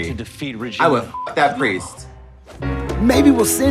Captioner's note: beeps